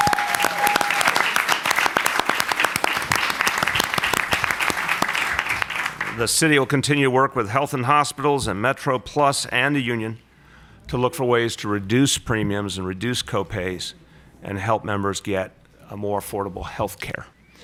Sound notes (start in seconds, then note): 3.7 applause